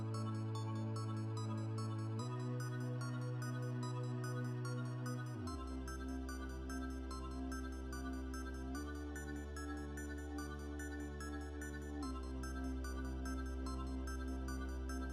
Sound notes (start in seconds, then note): none